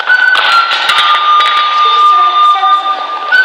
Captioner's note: swords clattering